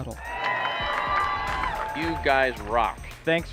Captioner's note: cheers